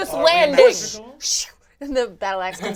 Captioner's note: imitates whooshing